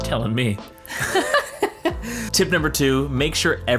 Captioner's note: laughing